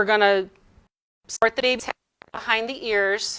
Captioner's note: audio distorting